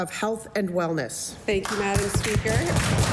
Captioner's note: some Applause